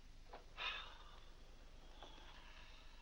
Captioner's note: sighs